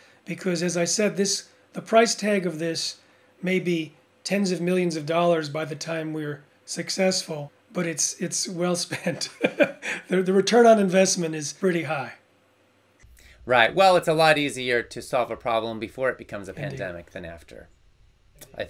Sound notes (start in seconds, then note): 9.0 laughs